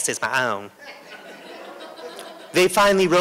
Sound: laughter

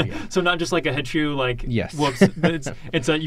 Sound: laughs

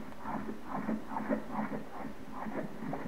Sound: heart sound

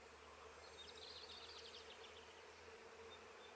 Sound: humming, birds chirping

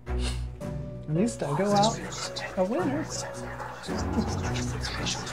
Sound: giggles; voices whispering; giggles

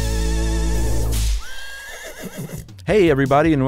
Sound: horse neighs

